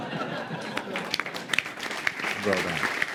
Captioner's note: laughter; applause